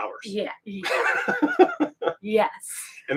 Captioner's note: laughs